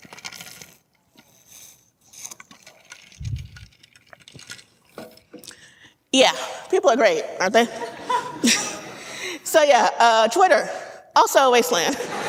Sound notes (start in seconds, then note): 7.5 audience laughing; 11.6 audience laughing